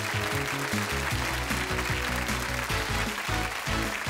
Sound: applause; theme music

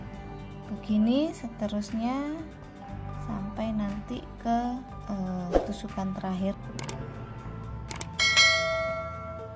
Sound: repeated knitting

